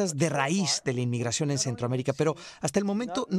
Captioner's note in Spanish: HABLAN EN INGLéS